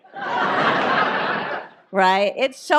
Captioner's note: audience laughs